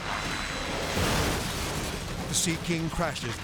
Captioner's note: helicopter crashes